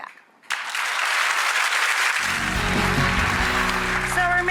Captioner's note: audience applauds